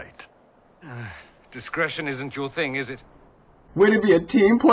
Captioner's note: sigh